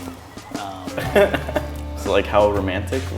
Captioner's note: chuckles